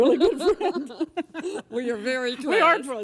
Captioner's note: both laugh